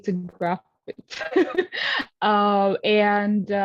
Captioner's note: laughs